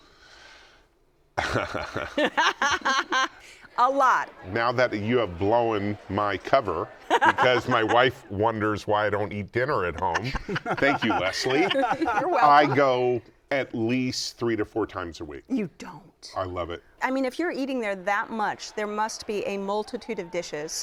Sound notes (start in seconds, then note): 1.4 laughter; 1.4 laughs; 9.8 laughter